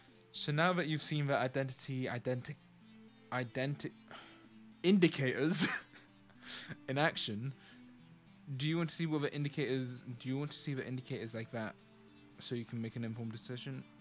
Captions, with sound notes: So now that you've seen the identity identic- Identic- Indicators! *laughs* In action... do you want to see what the indicators- do you want to see the indicators like that, so you can make an informed decision?